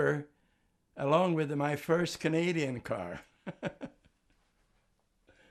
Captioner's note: laughing